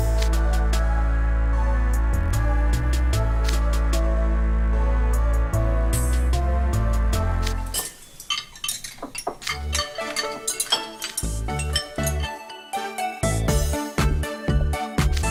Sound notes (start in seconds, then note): 7.7 rattle, rattle….!